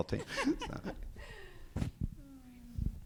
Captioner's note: judge chuckles; speaker chuckles